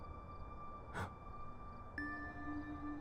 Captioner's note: gasp